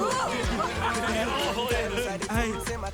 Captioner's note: laughing